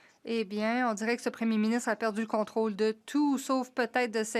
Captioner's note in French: voix de l'interprète